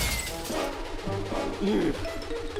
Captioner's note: sighs